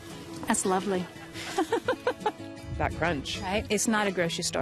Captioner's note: laughs